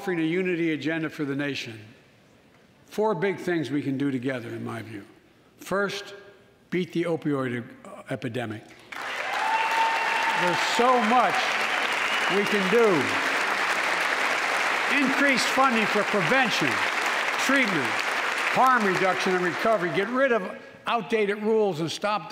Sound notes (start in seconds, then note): 13.3 applause